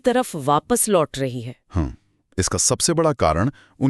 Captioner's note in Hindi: गला साफ़ करने की आवाज़